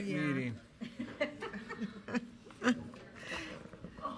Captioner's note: woman laughs